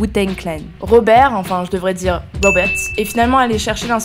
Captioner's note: french accent